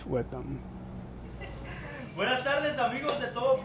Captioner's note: laughter